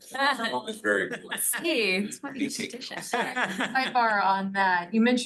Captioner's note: laughter